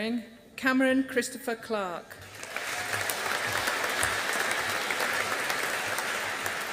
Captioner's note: audience applauding